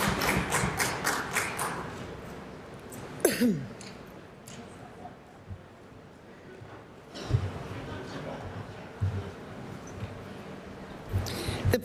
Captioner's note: applause